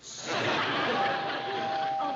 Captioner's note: doorbell rings